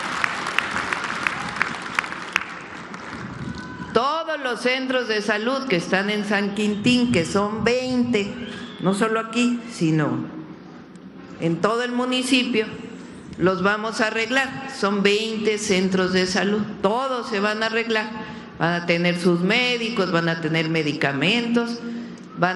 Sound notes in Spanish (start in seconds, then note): 3.1 aplausos